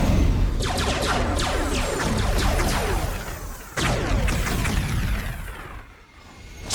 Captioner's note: spacecraft whooshes; explosions booming; cannons blasting